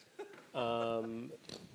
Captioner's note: laughs